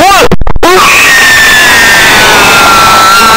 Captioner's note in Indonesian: teriakan kejam